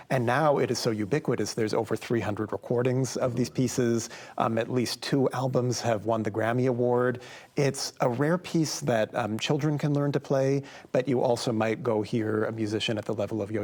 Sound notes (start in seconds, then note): none